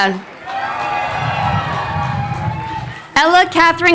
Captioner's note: crowd cheering